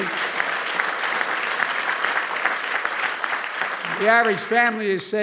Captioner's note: applause